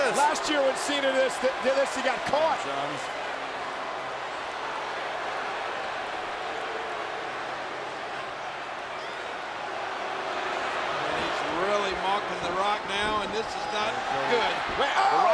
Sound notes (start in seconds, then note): 3.1 applause